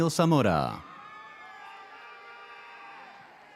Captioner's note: audience cheers